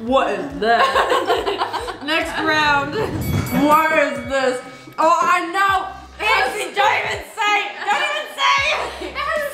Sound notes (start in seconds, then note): 2.7 bell dings